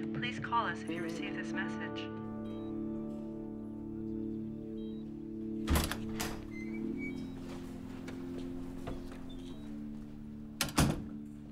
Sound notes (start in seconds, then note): 1.4 machines beeping